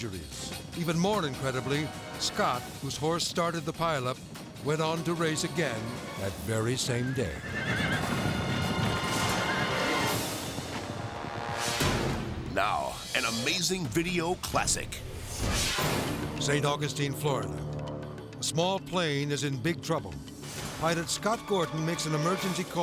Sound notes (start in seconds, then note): 7.2 hooves thundering; 7.2 horses neighing